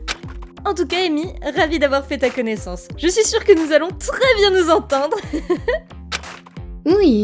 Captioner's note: laugh